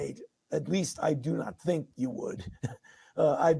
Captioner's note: laughing